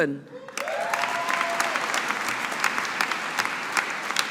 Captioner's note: audience applauding